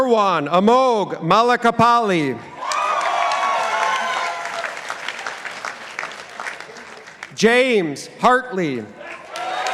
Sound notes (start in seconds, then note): 2.6 participants applauding